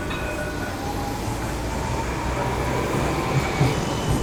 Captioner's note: train bells; train arriving; train stopping